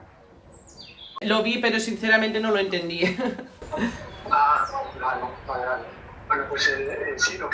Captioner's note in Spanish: risas